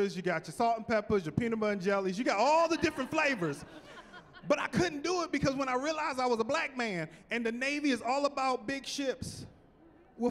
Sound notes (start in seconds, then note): 2.4 laughing